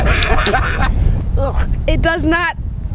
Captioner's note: laughing